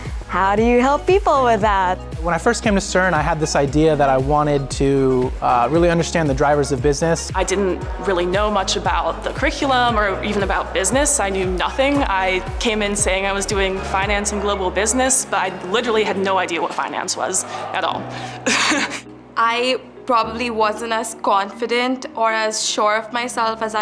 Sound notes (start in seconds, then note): 16.8 laughs